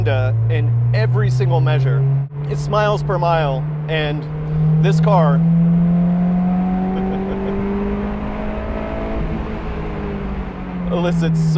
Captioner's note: accelerates and chuckles